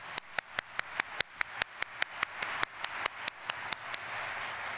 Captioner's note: audience applauding